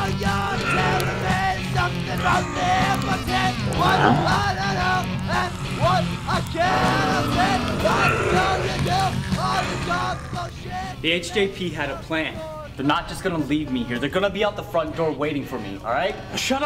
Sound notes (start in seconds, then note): 2.2 zombie groans; 6.0 zombie hissing